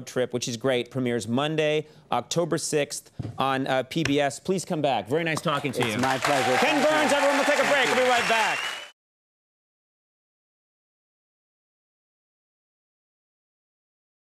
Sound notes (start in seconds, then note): 5.7 audience cheering